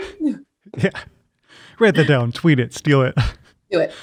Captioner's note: laughing